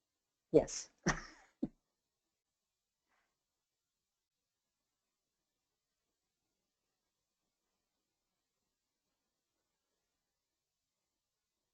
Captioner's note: silence